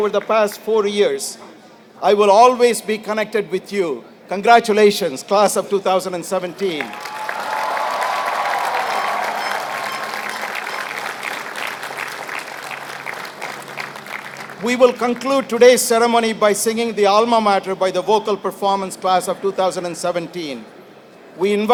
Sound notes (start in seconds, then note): 6.8 applause